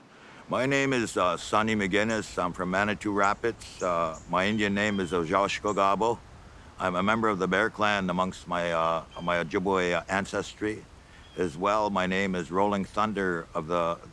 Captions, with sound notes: My name is Sonny McGinnis, I'm from Manitou Rapids. My Indian name is (speaking Ojibway). I'm a member of the Bear Clan, amongst my, my Ojibway ancestry. As well, my name is Rolling Thunder of the--